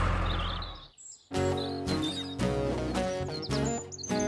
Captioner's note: birds Chirping